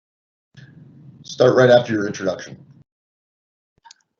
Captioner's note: male Voice